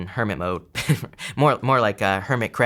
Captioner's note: chuckling